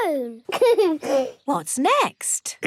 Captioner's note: giggles